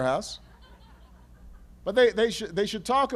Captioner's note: laughter